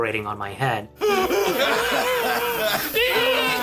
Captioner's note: all laughing